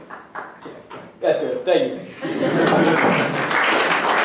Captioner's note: applause